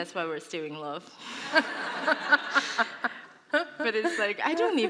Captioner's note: laughter